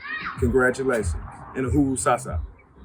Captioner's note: non-english